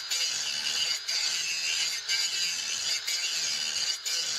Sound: metal grinding

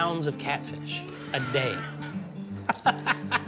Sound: laughing

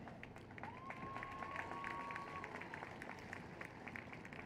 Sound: applause and Cheers

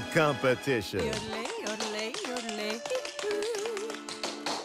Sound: yodeling; tap shoes clicking

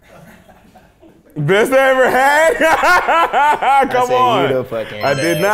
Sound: laughs

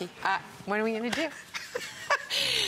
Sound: laughter

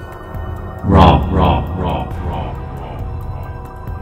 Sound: echo

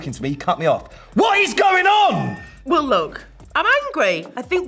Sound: shouts

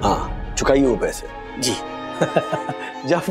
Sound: chuckling

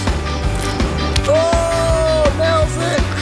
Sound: fingerboard slams

